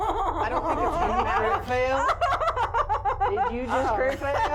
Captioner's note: laughing